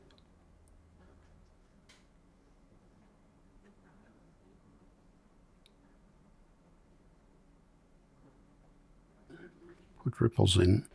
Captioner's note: silence